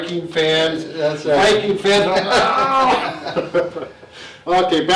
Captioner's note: laughs